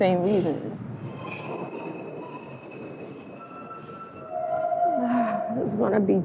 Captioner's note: Trem freando